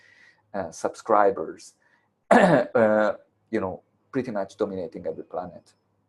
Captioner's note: cough